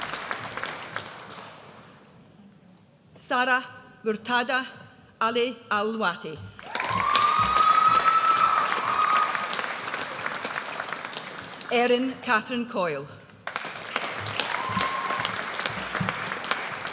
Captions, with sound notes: Sara Murtadha Ali Al Lawati. (AUDIENCE CHEERS) Erin Catherine Coyle. (AUDIENCE APPLAUDS)